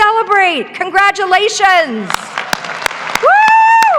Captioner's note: clapping; graduates applaud